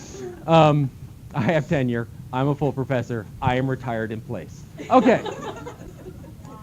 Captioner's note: laughter